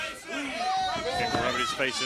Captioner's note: crowd chatter